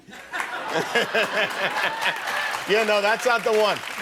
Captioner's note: laughs